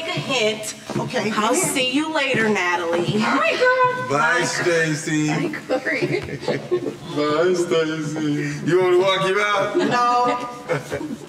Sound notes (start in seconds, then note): 6.8 mocking